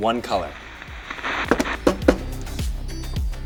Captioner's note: taps on the TV; soft music